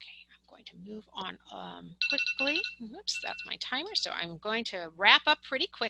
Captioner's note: chime